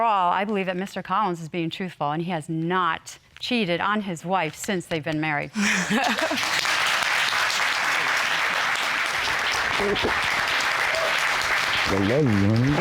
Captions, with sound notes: And so overall, I believe that Mr. Collins is being truthful and has not cheated on his wife, since they've been married. (SIGHS AND LAUGHS)